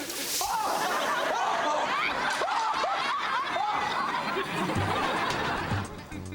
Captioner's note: Ben screams; audience laughs; upbeat music